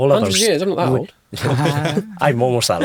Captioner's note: everyone chuckling